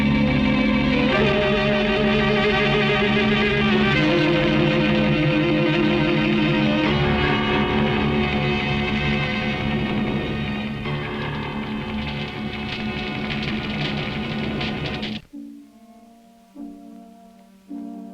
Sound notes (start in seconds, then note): 11.9 fire crackling; 15.4 somber music